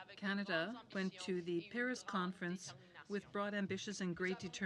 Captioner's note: speaking in french